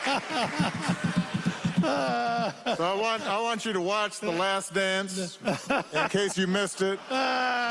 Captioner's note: laughter